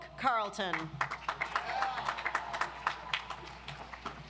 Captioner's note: audience applauds